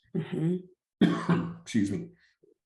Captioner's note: coughs